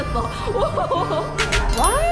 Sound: laughing

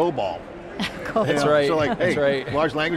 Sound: chuckles

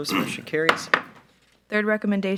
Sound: gavel knocks

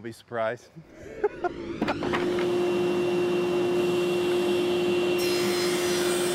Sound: wood whooshes; machine whirring

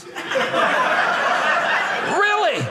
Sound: audience laughing

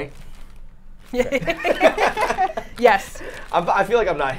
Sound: both laughing

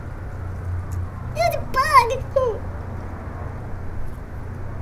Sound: whimpers

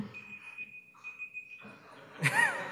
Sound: alarm beeps; laughter

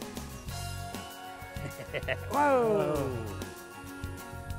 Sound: laughing

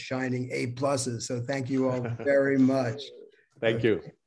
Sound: laughter

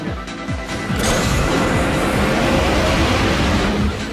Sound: engine whirring

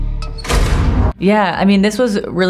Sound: ominous music continues; door slams shut

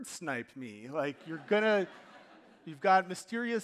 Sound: audience laughing

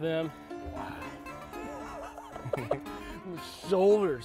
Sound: laughs

